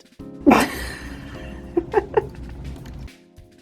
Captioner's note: laughing